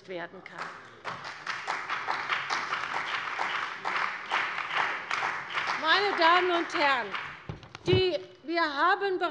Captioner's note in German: Beifall bei der CDU und dem BÜNDNIS 90/DIE GRÜNEN